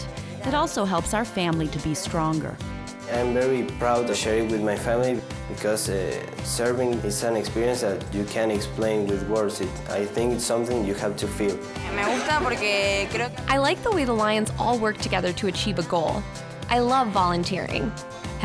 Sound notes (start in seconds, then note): 11.6 speaking spanish